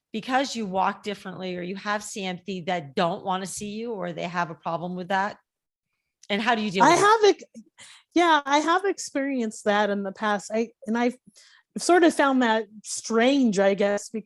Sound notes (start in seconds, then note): none